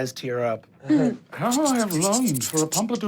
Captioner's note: impersonates the sound of spiders crawling